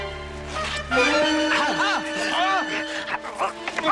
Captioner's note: grunting